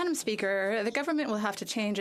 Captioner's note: speaking French